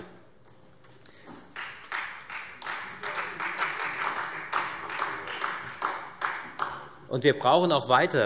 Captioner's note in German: Allgemeiner Beifall